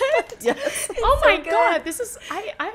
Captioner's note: laughing